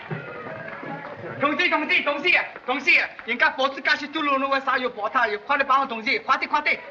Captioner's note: shouting in Chinese